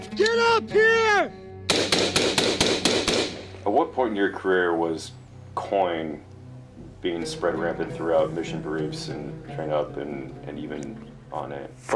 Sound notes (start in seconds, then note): 1.6 gunfire bursts